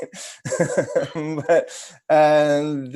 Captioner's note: laughs